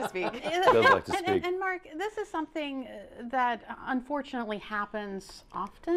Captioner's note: laughter